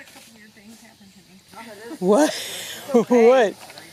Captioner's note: laughs